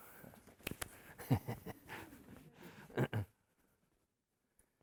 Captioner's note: emcee laughing